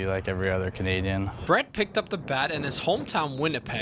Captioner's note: voiceover